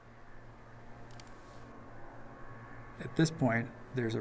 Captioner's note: sound of snowmobiles